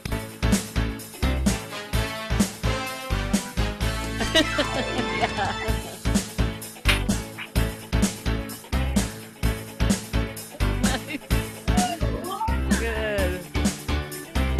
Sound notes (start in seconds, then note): 4.1 laughs